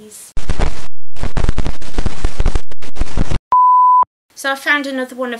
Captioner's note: static sound and then a beep